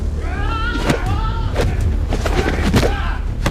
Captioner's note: Monte grunts; thudding